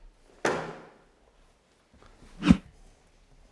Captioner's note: door clunks; graphic whooshes